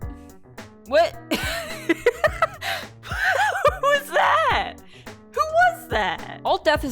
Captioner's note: laughter